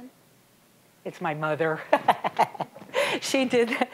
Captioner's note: laughing